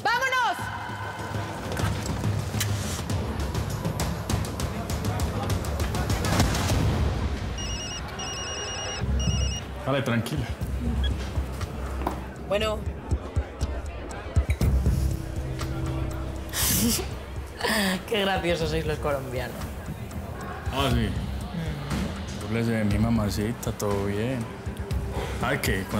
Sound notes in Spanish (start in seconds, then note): 9.6 Suena el celular